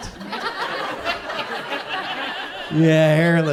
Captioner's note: audience chuckles